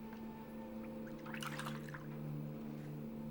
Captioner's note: water splashes